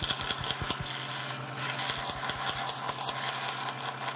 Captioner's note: scratching, rattling sawing noises